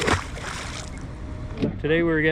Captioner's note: fish splashing; boat engine idling